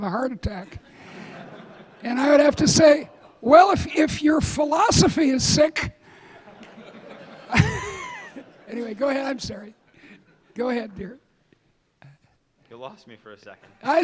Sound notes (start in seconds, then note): 6.1 audience laughing